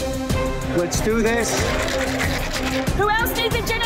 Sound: upbeat music; ice clatters

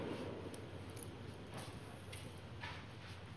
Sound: keys jingling

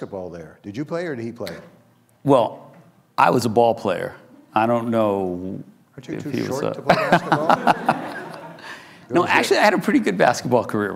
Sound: laughs

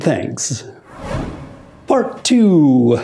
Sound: screen whooshes

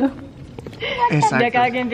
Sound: sigh

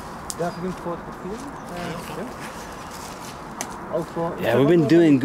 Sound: group members speaking faintly in German

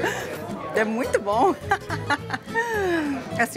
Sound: in Portuguese

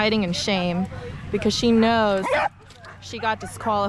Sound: dogs barking; dog barking

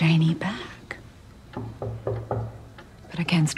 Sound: knock on door

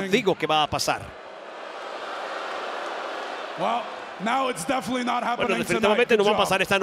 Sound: applause

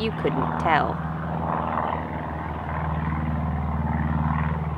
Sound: airplane droning overhead

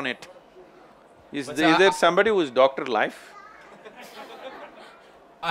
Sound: laughter

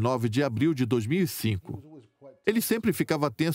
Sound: voiceover

